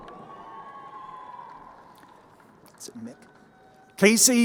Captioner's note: crowd cheering